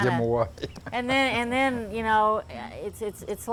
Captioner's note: laughs